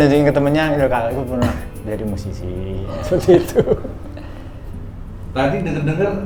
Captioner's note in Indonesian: tertawa